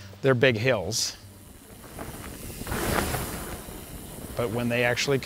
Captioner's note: bike riding past